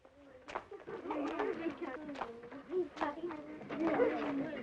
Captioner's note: children Laughing - Chattering